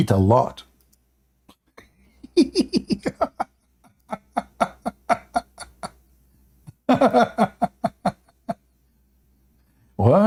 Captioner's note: Ketawa